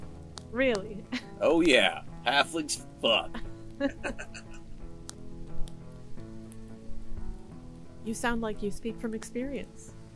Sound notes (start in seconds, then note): 0.8 laughs; 3.8 both laugh